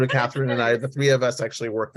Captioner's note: laughs